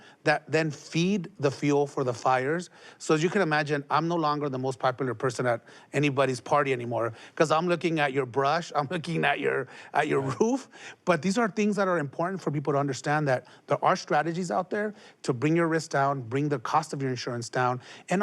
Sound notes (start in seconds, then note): 10.1 chuckles